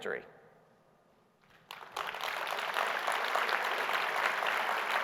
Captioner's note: audience applauding